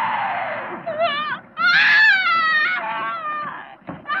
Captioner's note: yelling